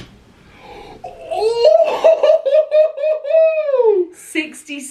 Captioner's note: exclaiming